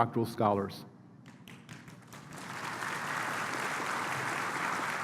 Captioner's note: applause